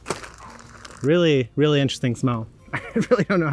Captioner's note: chuckling